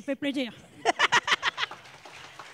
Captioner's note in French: Applaudissements